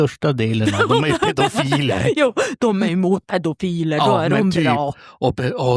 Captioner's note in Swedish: skratt